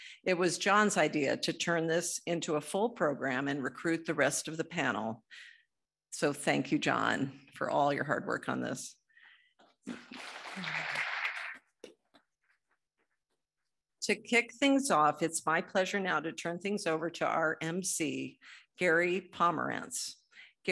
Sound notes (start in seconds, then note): 9.9 audience applauding